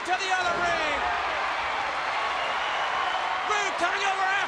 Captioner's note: crowd cheering